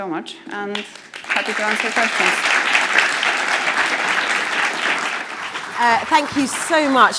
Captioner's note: crowd clapping